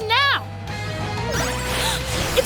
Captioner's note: gasping